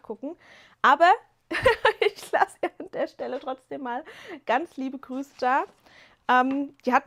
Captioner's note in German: gelächter